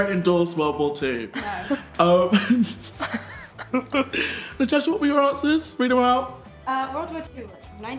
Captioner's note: laughing